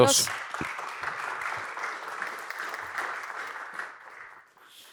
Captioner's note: applause